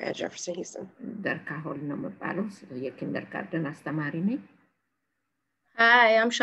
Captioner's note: speaking in foreign language